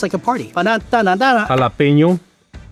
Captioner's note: imitates dance music